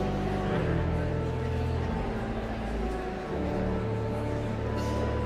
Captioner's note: joyful organ music continues; audience chattering continues